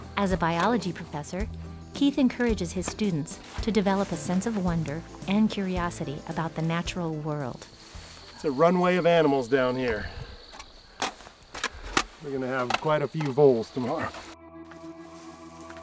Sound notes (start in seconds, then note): 11.5 catching a live trap